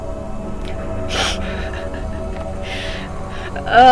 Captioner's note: laughing